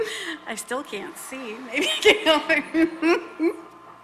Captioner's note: laughs